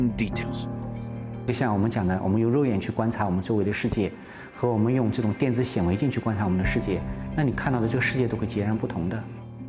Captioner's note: speaking Chinese